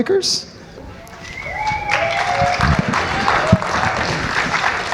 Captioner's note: audience whistles and applauds